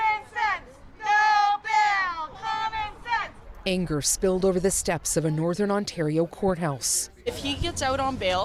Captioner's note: chanting